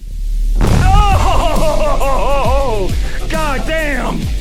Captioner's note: dynamite explodes; upbeat music